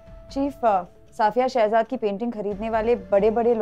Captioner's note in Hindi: none